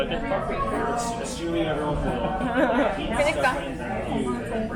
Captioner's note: both laughing